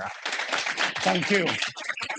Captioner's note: audience applauding